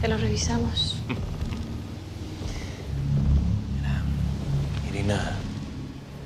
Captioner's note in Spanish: Ríe